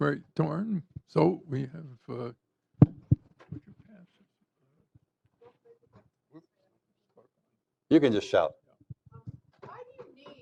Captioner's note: applause